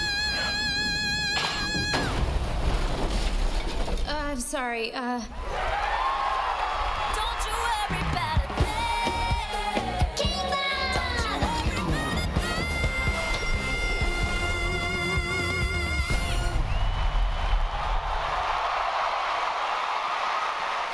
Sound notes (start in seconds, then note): 2.2 stage crashing; 5.3 audience cheering; 16.3 audience cheers and applauds